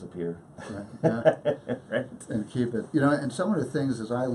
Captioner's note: laughing